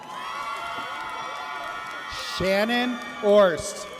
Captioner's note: audience cheers